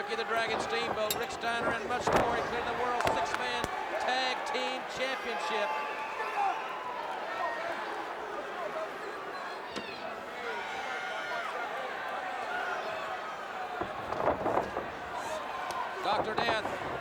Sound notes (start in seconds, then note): 13.2 crowd cheering; 14.7 crowd chatter